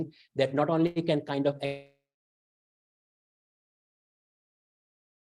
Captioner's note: audio cuts out